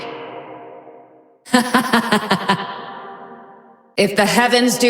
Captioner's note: laughs